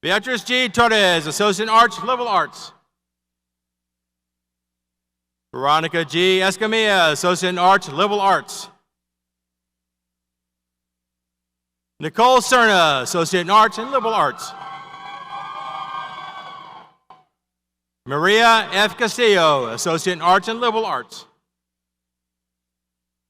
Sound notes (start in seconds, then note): 16.2 audience cheers